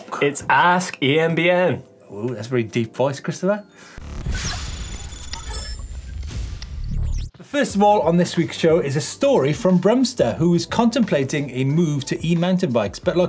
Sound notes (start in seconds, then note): 4.1 lightning sound